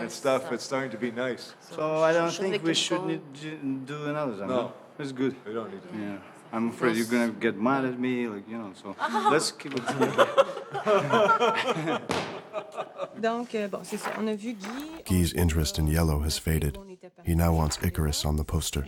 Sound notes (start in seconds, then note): 9.8 all laughing